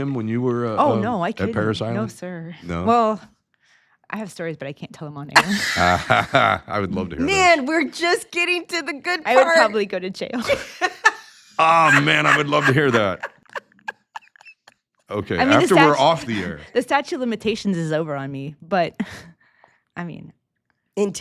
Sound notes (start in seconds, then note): 5.3 laughs; 11.5 laughs